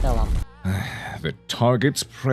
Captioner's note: sigh